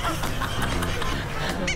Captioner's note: out of breath laughing